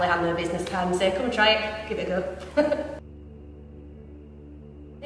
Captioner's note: laughs